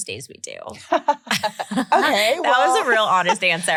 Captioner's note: laughing